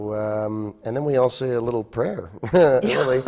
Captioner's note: laughs